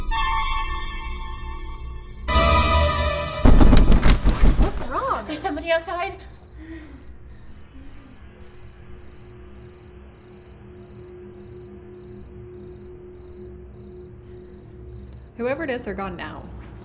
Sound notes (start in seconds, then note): 0.1 suspenseful music; 3.4 bangs on door; 6.4 scared breathing